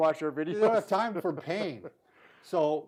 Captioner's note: laughs